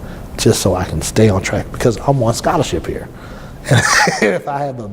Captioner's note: laughs